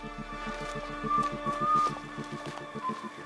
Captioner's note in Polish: gwizd strażnika